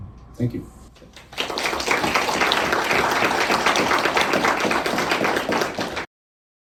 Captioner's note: clapping